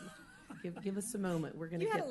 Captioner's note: laughter